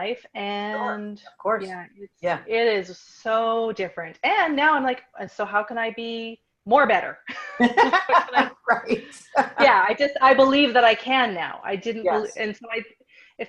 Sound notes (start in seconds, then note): 7.6 laughs